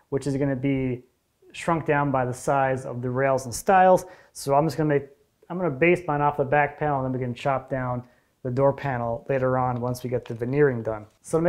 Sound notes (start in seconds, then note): none